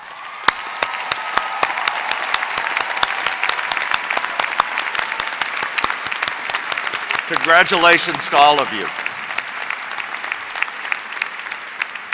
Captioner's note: applause